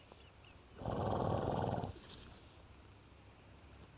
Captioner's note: horse chuffing